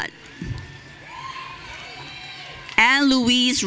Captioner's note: audience cheering